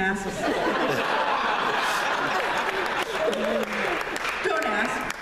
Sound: laughter

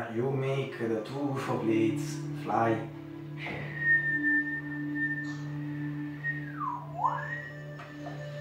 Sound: whistle

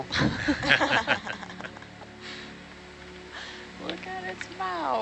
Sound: all laugh

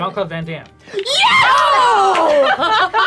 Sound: screaming; laughter

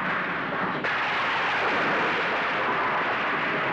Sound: thunder crashing

